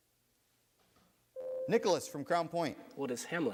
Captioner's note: buzzer sounds